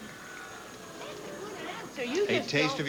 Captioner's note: audience boos